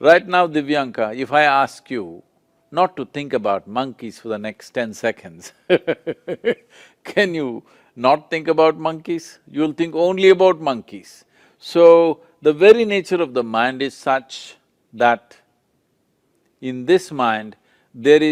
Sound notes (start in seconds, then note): 5.6 laughs